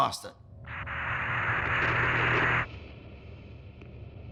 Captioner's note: radio static popping, ends abruptly